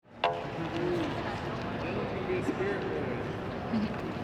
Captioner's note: crowd chattering